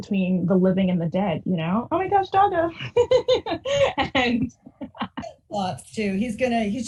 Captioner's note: chuckles